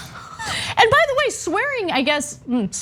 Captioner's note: laugh